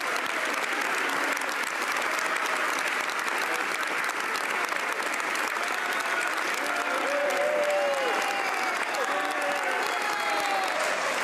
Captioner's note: some Applause